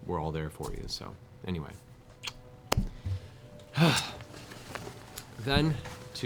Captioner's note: blows kiss, sighs